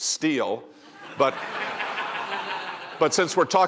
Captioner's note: laughter